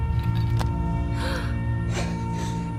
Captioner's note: gasps; dramatic music